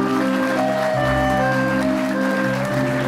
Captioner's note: applause